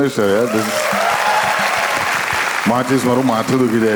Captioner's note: crowd applauding